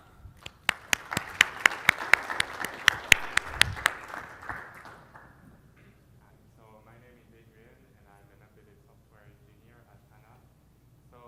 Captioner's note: applause